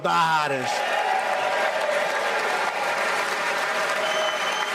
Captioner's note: applause